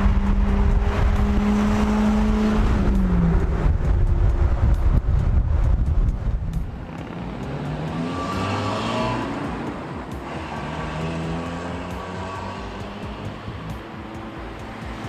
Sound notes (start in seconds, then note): 1.2 engine revving; 1.2 upbeat music